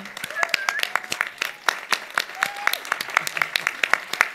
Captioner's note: audience applauds